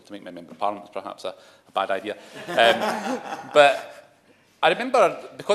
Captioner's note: laughter